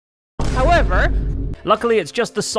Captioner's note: boom